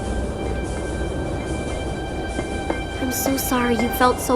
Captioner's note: scoffs, turning back to the controls